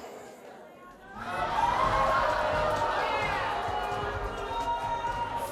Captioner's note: audience boo's